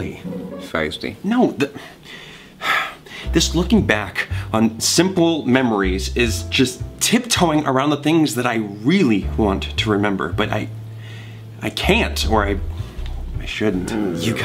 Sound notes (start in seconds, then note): 2.3 sighs